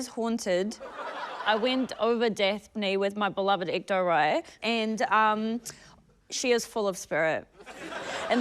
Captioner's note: laughter